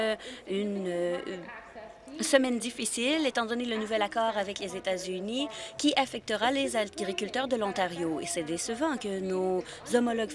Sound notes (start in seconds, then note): none